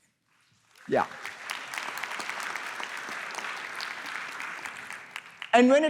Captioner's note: applause